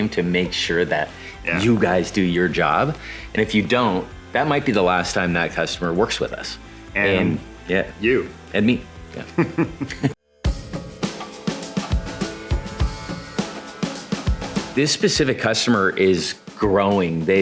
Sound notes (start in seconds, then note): 9.2 all chuckling; 10.8 bright music